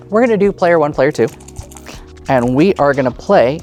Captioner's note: dice rattling